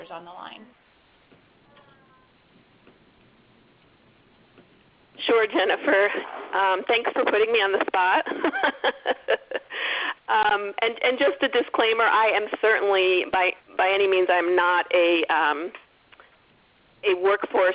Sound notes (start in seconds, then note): 8.2 laughs